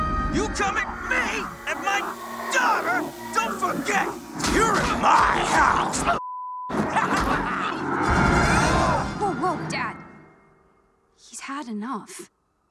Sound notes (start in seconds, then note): 0.0 Adam screams; 6.2 beep; 6.8 laughs